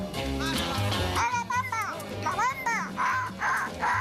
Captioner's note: speaks song lyrics